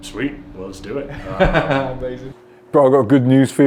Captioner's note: laughing